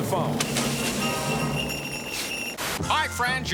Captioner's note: sleigh bells jingle